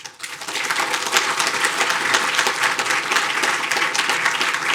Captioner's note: audience applauding